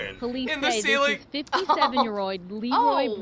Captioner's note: laughs